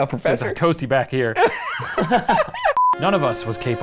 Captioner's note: laughs